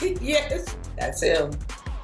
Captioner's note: laughing